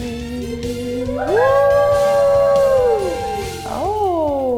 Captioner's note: cast cheering